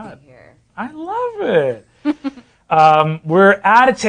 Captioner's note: laughing